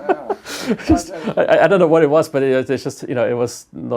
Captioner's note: laugh